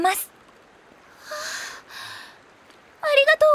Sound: sighs

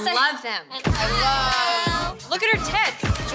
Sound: people chattering

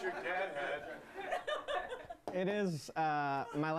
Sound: laughter

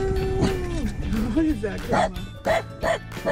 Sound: bark

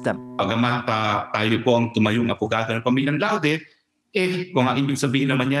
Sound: speaking in Filipino

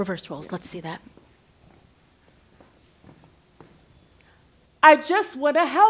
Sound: footsteps

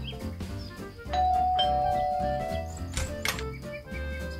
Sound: doorbell Chime

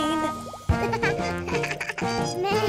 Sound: giggles

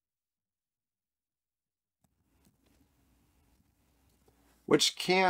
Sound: silence

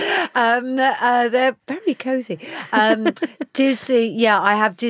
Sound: Giovanna laughs

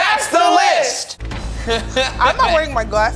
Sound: laughs

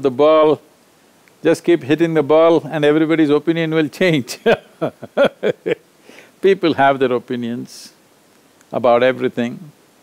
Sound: laughs

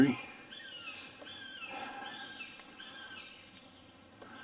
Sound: bird screeching

